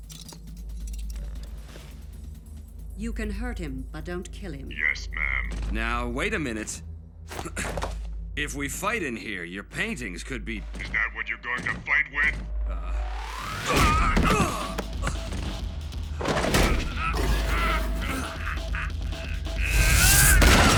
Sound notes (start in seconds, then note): 7.4 grunts; 13.6 groans; 16.7 grunts; 19.6 yells